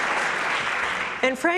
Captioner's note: applause